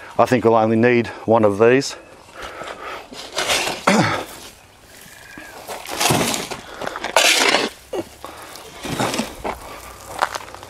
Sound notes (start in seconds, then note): 2.3 soil crunches continuously